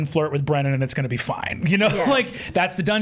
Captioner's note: laughs